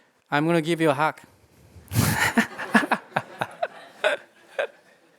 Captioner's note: laughter